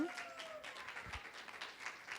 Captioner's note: applause